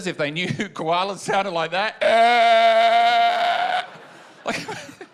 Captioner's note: croaks